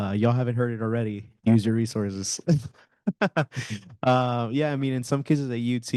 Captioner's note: panelist laughing